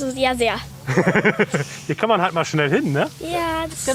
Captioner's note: laughs